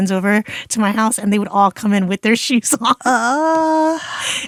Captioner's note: laughs